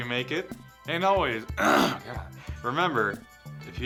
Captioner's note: clears throat